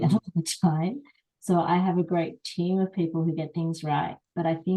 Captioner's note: laugh